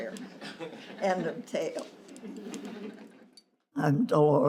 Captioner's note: laughter